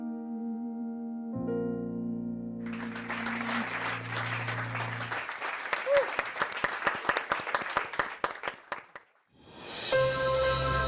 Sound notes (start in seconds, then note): 2.6 audience applauding; 5.8 piano music